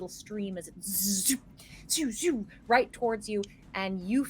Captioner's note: mimics zipping